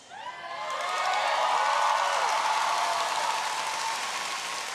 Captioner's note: audience cheering